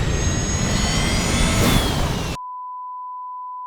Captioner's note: alarm blaring